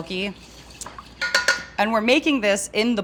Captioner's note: spoon tapping